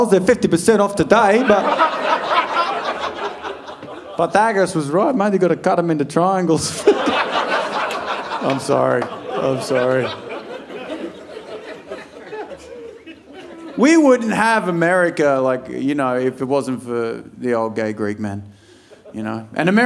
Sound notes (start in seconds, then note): 8.1 laughs